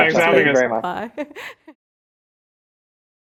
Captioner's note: laughs